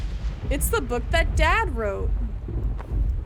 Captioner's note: loud Thunder Underlying